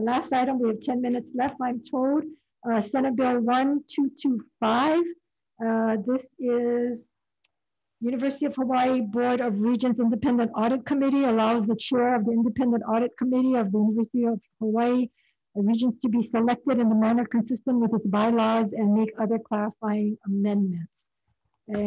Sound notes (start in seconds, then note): none